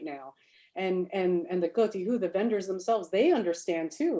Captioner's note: speaks Chinese